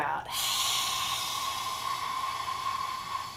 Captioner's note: loud exhale